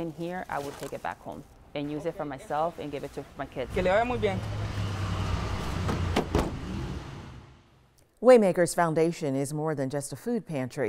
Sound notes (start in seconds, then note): 3.3 man speaking foreign language; 5.8 car door bangs